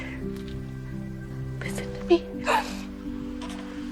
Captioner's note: whispering